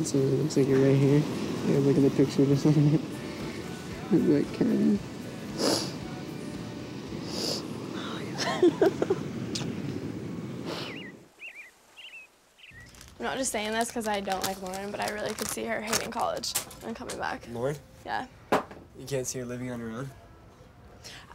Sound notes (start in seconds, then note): 5.5 Kristin sniffing; 8.0 Kristin laughing; 10.2 birds chirping